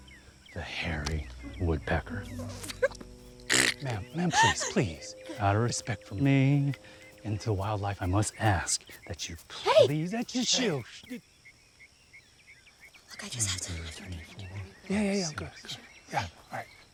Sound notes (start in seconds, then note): 3.4 laughs